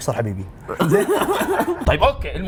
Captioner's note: laughs